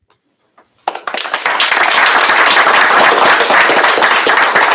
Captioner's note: applause